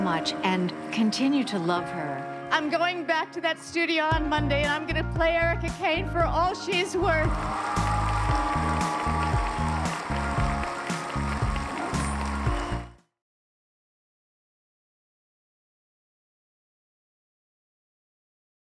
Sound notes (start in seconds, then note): 7.0 cheers and applause